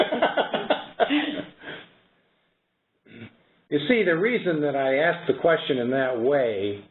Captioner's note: laughter